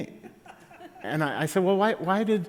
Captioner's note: laughter